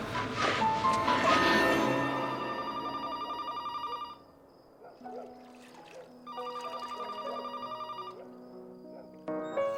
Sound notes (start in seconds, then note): 2.3 phone ringing; 4.8 dog barking; 6.9 classical piano music